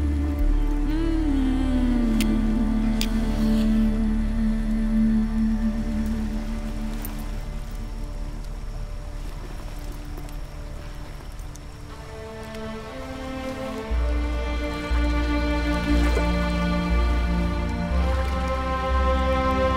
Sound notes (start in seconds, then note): 2.0 rocks scratch; 3.4 flame gently roars; 12.0 sorrowful music continues